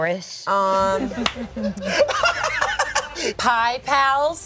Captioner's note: laughs